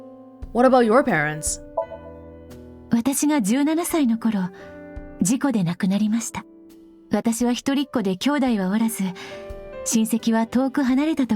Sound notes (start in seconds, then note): none